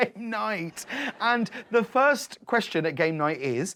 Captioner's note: audience laughing